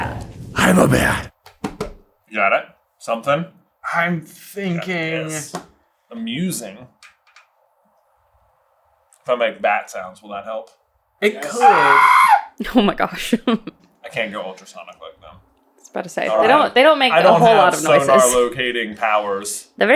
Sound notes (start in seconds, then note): 11.4 pterodactyl shriek